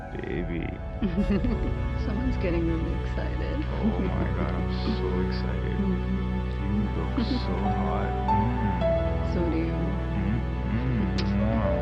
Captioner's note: distant chatting sounds